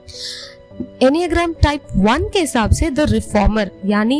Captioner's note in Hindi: नाक से की जाने वाली आवाज़